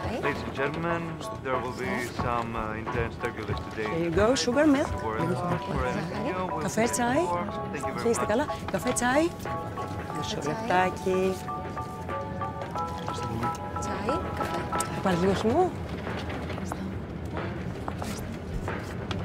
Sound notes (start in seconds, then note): 0.0 Vanina and passengers speaking foreign language; 5.5 Vanina and passengers speaking foreign language; 14.1 Vanina and passengers speaking foreign language